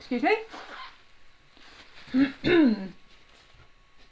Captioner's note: clears throat